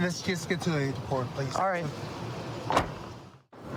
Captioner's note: car door closes